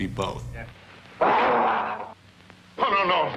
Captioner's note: growling